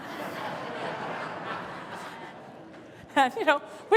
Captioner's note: laughter